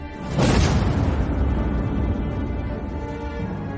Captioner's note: impact explosion